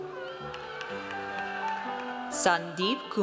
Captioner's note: audience cheers